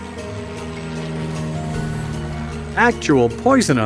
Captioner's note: plane engine roars